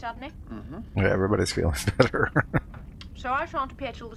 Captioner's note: chuckling